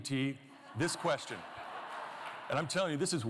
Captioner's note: laughter